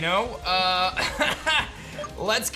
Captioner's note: laughs